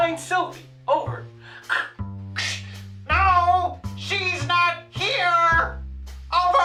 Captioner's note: over walkie talkie